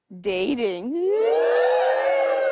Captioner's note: crowd cheers